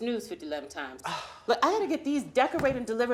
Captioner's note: E.J. sighs